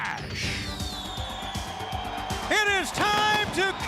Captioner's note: crowd cheering